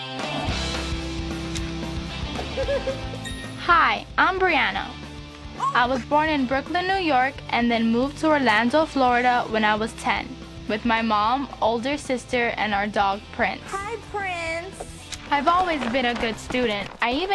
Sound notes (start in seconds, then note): 0.1 rock music; 2.3 laughs